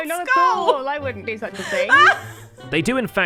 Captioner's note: scoff-laughs